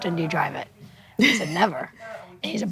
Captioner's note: laughs